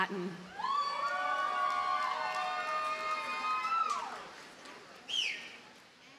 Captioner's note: audience cheers and applauds